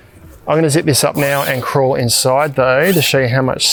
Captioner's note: zip rasping